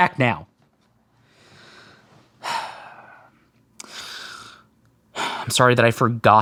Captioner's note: SFX: A low HISS starts to build. And build. And BUILD